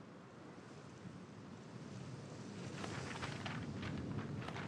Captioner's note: gusty wind